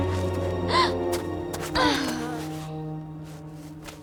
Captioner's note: gasping; grunting